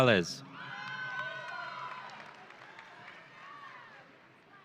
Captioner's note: audience cheering